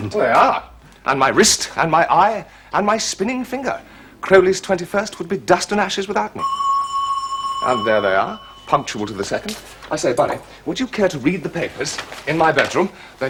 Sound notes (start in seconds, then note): 6.4 doorbell ringing